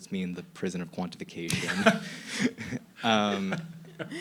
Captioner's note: laughing